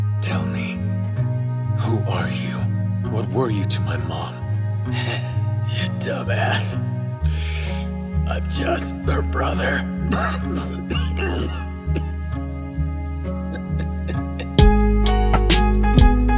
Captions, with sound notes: Tell me- who are you? What were you to my mom? [KENNY LAUGHS] You dumbass I'm just- her brother. [KENNY COUGHS] [KENNY LAUGHS] 0:02:42.000,1193:02:47.295 [KENNY INHALES]